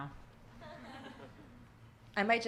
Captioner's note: audience laughing